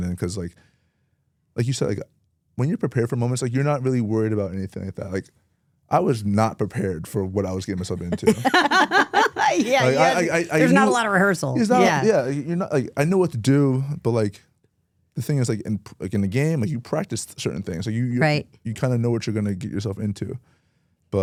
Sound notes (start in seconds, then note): 7.7 both laugh